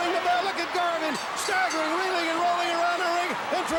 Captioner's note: bell rings